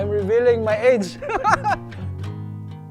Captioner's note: laughs